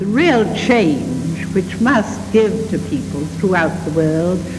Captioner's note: televised speech